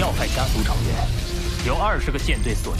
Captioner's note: laser cannon charging